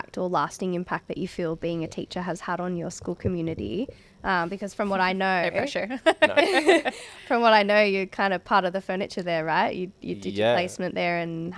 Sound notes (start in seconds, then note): 5.9 laughing